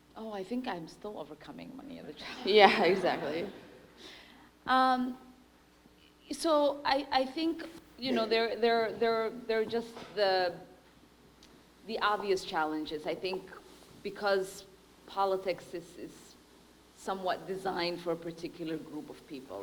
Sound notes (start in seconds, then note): 2.6 laughter; 3.2 audience member speaking